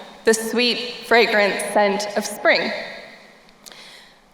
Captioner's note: none